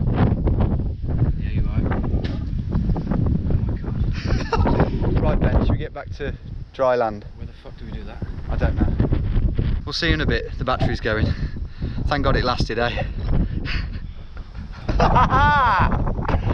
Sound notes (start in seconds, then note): 2.3 spitting; 4.0 laughing; 14.4 both laughing